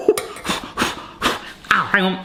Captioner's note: blowing